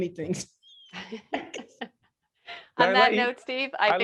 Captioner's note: laughing